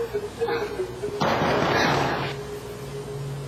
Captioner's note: knocking